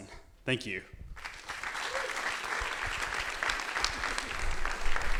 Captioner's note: audience applauding